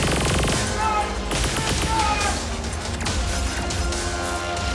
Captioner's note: lasers firing; guns firing